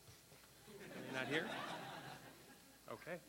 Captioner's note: laughter